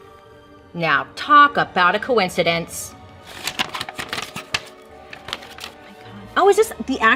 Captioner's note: paper rustling